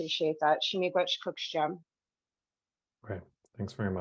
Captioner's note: speaks in Indigenous language